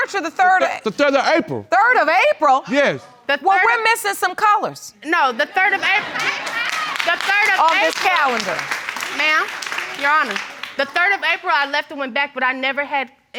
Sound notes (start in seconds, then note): 5.4 audience laugh